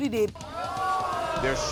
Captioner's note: audience groaning